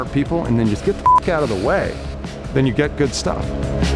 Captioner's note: beep